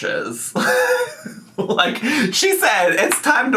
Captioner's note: laughing